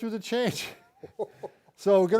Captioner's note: both chuckling